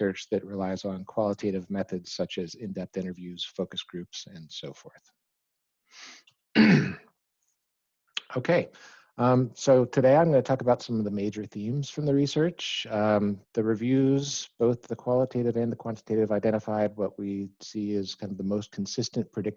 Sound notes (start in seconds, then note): 6.5 clears throat